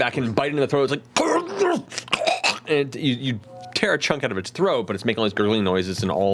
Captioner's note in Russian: хрипит и хватает ртом воздух